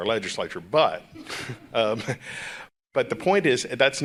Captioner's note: chuckles